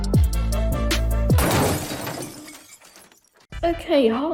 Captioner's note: glass crashing